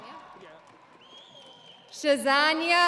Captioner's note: audience cheering